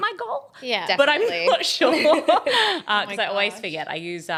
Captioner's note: laughs